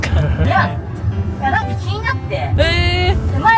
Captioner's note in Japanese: ※音声変えてます